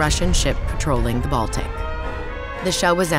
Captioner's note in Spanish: estruendo de cañón